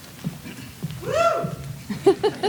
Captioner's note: graduate shrieks; laughing